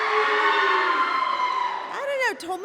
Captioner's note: cheering